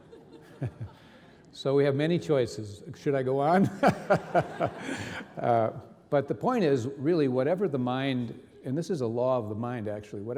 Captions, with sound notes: (reverend laughing) So we have many choices. Should I go on? (reverend and audience laughing) But the point is really whatever the mind— and this is a law of the mind, actually—